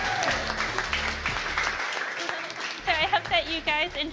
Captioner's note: loud cheers & applause